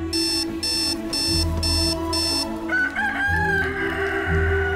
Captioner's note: alarm beeping; rooster crows; phone rings